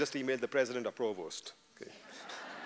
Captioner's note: laughter